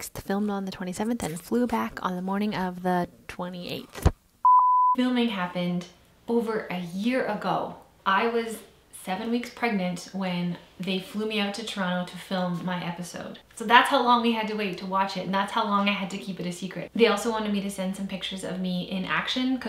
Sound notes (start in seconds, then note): 4.4 beep